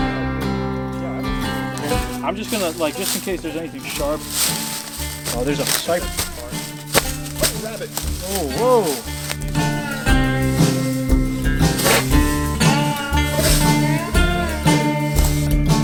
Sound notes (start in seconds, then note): 6.4 leaves rustling